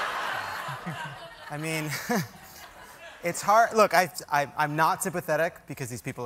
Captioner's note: laughter